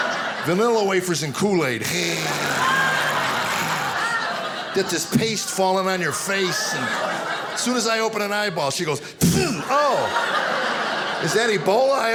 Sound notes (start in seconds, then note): 0.0 audience laughing; 9.1 sneezing